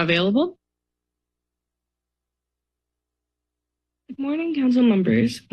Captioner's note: silence